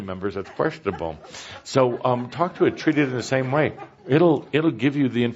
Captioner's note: laughter